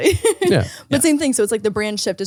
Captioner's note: laughing